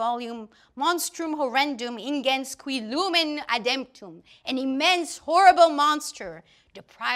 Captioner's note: German speaking